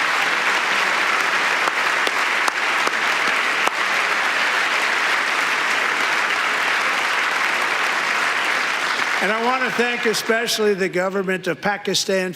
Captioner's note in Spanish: aplausos